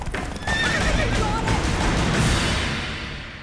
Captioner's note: horse neighs